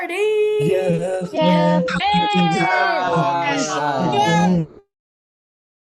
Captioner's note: cheering